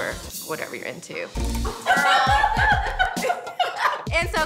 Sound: laughs

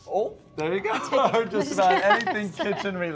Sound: both laughing

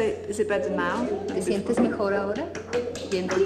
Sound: non-english speech

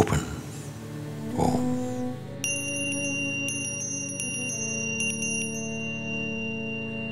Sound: bell chiming

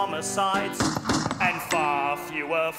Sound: gun shots

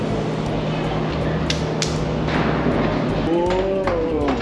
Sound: clapping

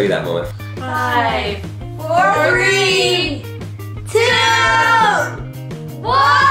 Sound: voiceover

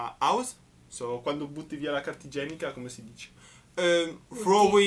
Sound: explaining in italian

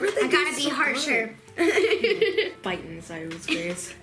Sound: laughs

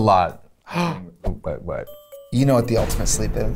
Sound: gasps

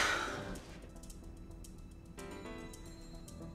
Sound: exhales

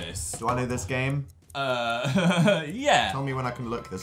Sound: chuckles

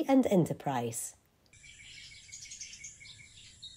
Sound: birds chirping

